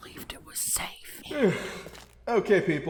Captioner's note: loud yawn